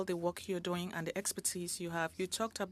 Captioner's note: speaking French